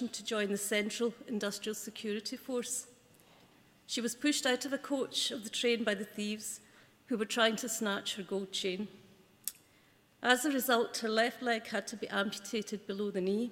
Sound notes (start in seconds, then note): none